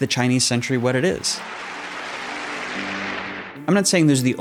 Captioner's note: congress applauding